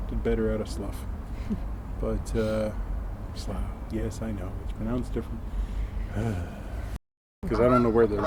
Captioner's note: sigh